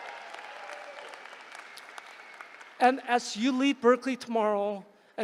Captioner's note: applause